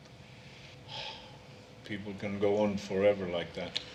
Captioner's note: sighs